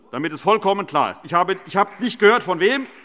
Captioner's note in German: Beifall CDU, Freie Demokraten und AfD